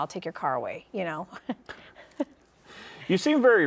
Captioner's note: chuckles